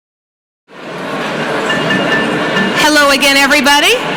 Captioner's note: crowd chattering